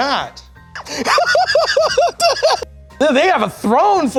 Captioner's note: laughs